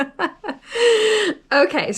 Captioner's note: laughs